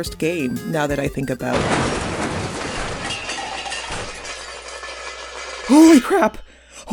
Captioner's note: loud slam